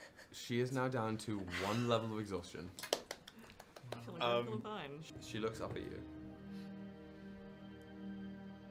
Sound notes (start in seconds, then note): 2.8 clapping